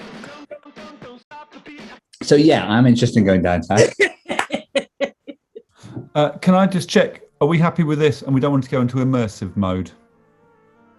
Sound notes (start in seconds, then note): 3.8 laughter